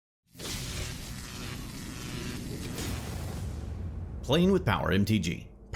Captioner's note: electricity buzzing